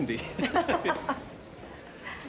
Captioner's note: both laughing